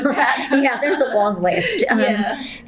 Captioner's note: laughter